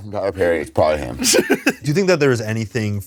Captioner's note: laughs